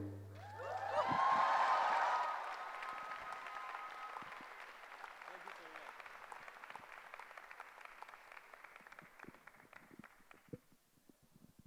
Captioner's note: cheering